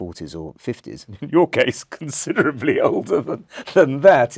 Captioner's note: laugh